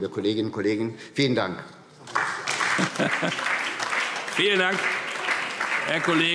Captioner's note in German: Beifall SPD und DIE LINKE